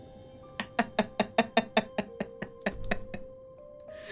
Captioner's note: laughing